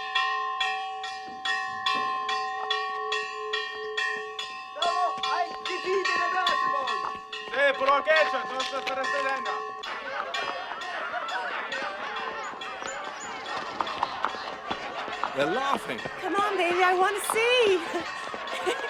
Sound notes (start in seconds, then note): 4.6 man speaking illyrian language; 7.7 man shouting in illyrian language; 9.9 crowd laughing